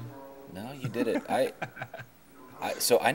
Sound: laughing

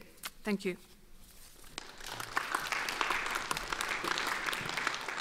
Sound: audience applauds

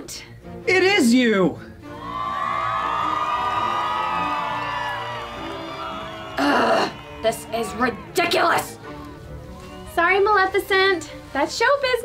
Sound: applause

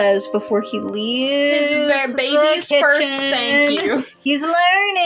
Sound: drawling

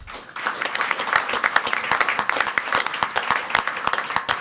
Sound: crowd clapping

